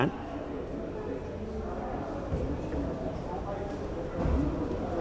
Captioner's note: crowd chattering